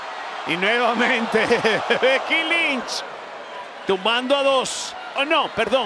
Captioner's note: laugh